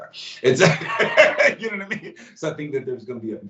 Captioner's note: laughs